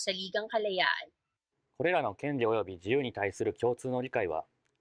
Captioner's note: speaking japanese